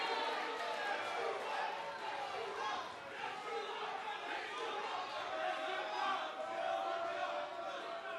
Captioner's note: cheers & boos